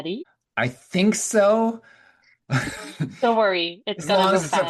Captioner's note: laughing